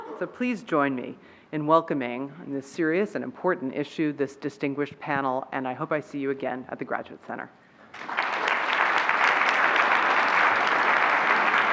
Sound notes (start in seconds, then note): 7.9 applauding